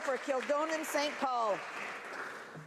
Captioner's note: some Applause